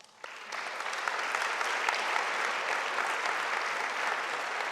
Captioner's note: audience applauding